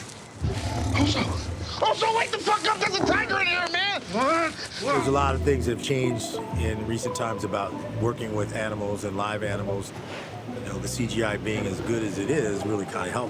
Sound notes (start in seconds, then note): 0.4 tiger growls; 1.0 whispering; 1.9 yelling